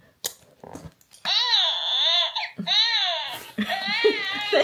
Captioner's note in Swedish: Bebisen gråter